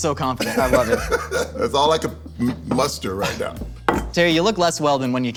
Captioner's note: laughs